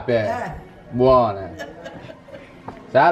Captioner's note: laughter